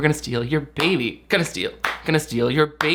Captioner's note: hands clapping